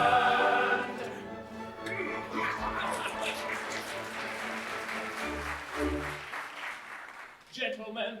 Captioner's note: music & applause